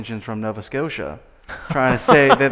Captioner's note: laughing